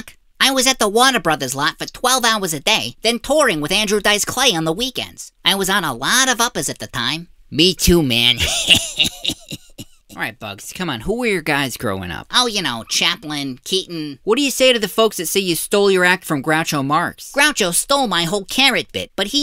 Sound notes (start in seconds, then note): 8.4 laughs